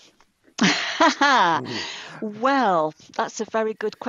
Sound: laughs

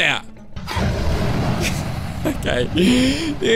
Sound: dragon roars

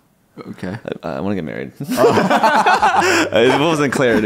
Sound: both laugh

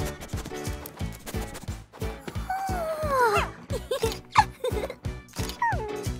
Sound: giggles

